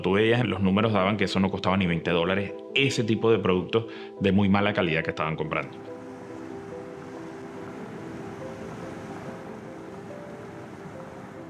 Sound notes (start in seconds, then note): none